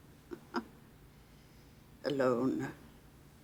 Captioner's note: chuckling